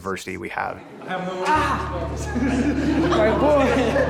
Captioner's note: laughing